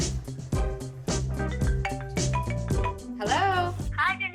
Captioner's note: cellphone rings